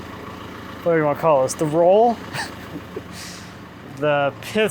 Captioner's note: laughing